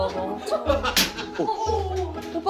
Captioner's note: crack